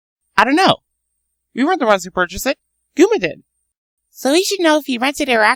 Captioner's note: none